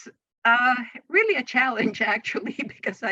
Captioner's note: chuckles